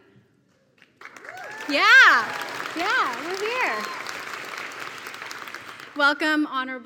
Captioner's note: applause